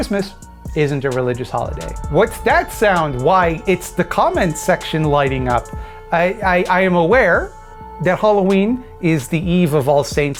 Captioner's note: battle horns in the distance